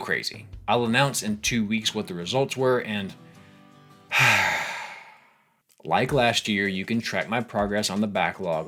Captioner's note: sigh